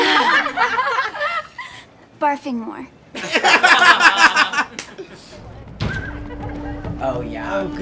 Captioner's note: laughter